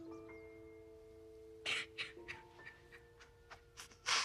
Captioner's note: crying